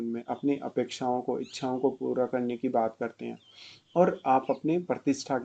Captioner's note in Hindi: नाक से की जाने वाली आवाज़